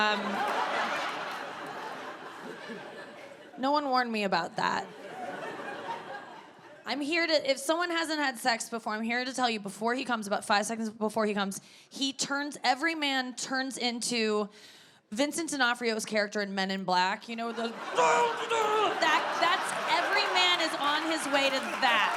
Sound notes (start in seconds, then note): 0.0 audience laughs; 4.9 audience laughs; 17.5 audience laughs; 17.9 grunts loudly; 19.2 audience laughing and clapping